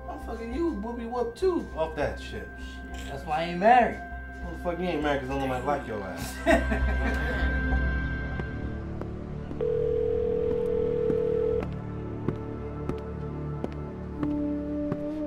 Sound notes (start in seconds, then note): 6.2 Chris laughs; 9.6 phone ringing; 11.6 feet thudding